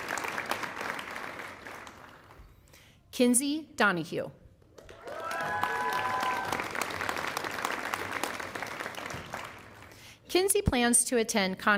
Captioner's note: applause